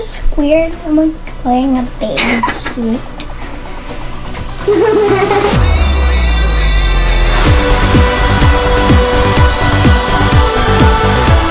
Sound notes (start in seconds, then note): 3.0 laughing